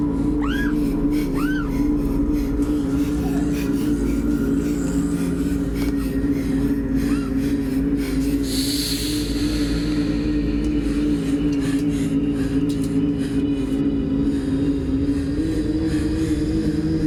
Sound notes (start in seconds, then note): 0.3 screams; 0.4 breathes heavily; 9.1 hisses; 11.8 breathes heavily; 11.8 ominous music